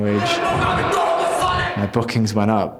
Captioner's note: yelling in foreign language